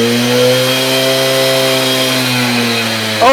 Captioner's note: leaf blower?